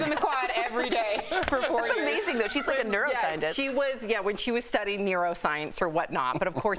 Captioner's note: laughter